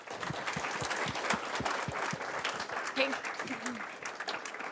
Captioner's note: audience applauding